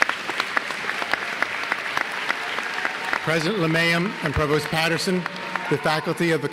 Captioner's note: applause